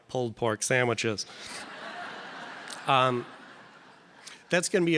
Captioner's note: audience laughing